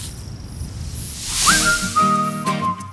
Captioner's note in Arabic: حفيف أوراق الشجر